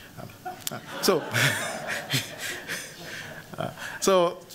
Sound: laughter

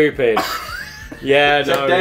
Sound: laughs

